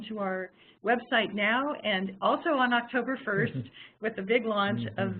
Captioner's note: laughing